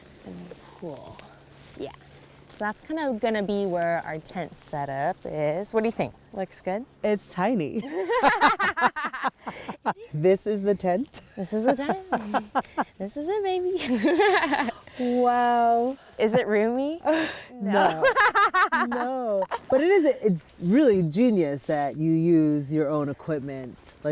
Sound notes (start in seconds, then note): 7.8 laughter; 11.6 laughs; 17.7 laughs